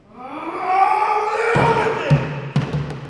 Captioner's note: screaming